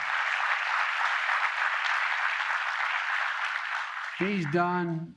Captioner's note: applause